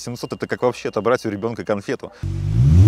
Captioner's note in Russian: звук двигателя